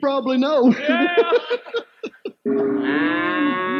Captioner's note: laughing; cow moos